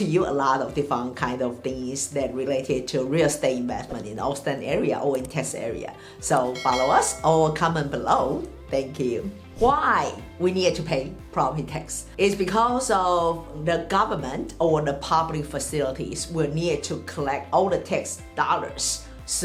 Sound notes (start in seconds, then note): 6.0 mouse clicks; 6.5 bell rings